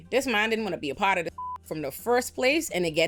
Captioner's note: beep